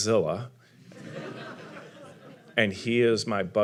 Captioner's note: audience laughing